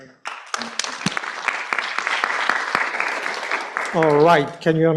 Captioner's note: applause